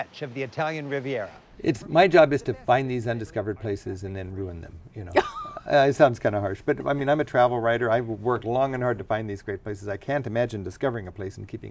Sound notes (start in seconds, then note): 5.1 laugh